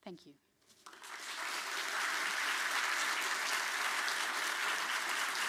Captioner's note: audience applauding